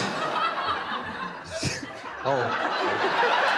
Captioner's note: laughter